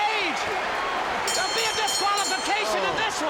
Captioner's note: bell dinging